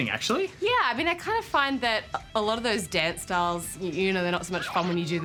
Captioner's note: aliens babble